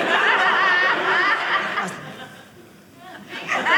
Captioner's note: audience laughing